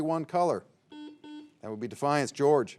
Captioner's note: signal beeps